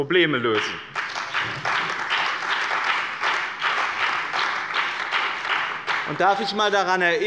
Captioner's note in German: Beifall bei dem BÜNDNIS 90/DIE GRÜNEN und der CDU